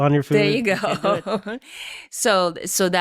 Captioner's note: laughing